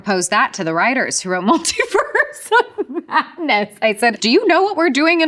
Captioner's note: laughs